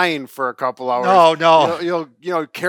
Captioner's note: laughs